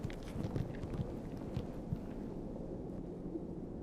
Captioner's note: wind blowing